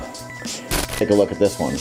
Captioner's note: static sound